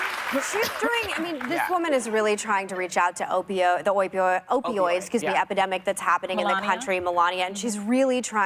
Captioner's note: applause